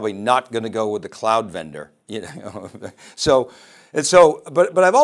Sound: laughs

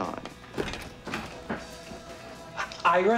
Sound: door Opens

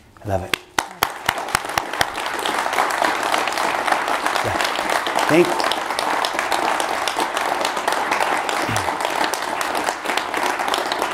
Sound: applause

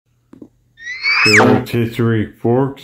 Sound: bonk

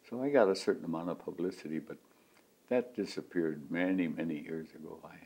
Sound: none

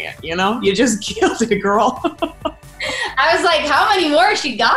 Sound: laughs

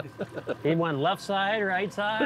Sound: laughing

